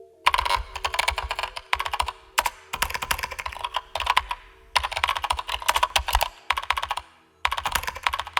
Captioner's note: keyboard and various computer sounds, including ‘sending’ and ‘received’ alerts